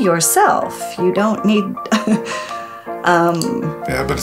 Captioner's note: laughter